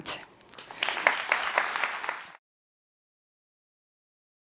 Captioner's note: crowd applauds